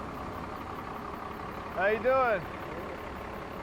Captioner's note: none